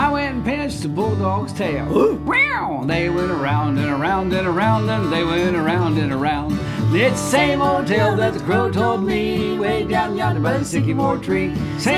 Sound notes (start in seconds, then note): 1.9 mimics dog bark; 2.0 mimics cat meow